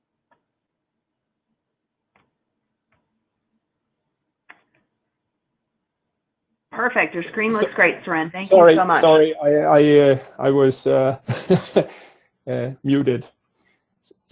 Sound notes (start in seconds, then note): 11.9 laughs